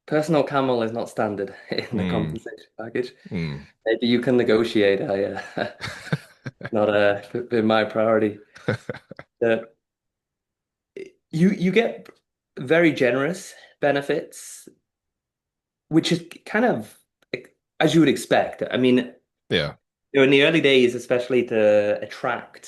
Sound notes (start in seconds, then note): 5.4 laughing